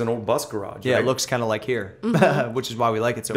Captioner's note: laughs